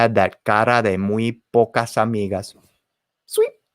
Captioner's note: spoken in foreign language